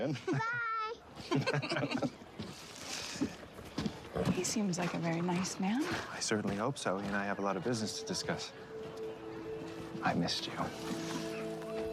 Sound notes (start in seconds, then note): 1.2 laughs